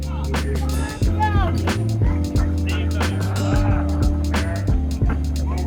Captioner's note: chill music; engine noises